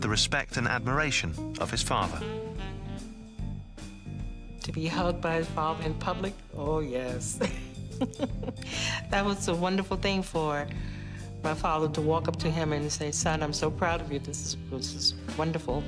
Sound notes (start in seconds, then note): 7.4 chuckles